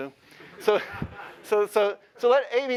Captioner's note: laughter